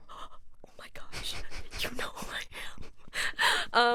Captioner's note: whispers